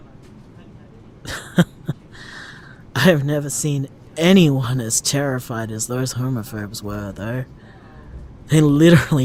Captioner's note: tired laugh